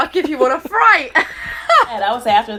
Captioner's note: laughs